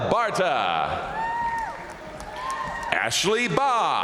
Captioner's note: crowd cheering; crowd applauding